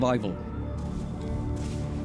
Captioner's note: heavy footfalls